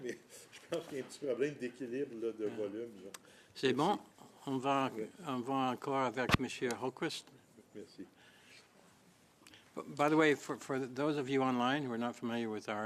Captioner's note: speaking French